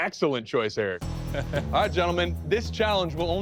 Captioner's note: laughs